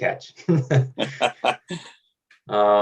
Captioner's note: laughing